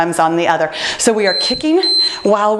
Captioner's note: timer beeping